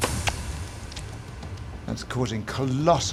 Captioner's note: gelatin squelching